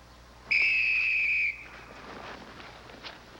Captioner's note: whistle blows